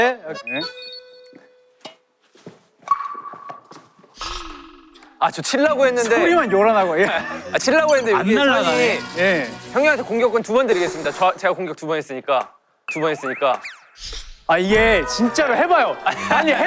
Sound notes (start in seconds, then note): 2.6 ting!